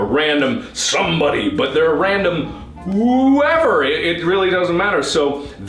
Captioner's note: deep voice